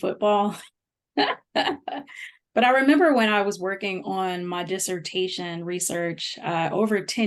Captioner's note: laughter